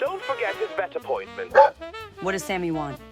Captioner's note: Robo Dog barks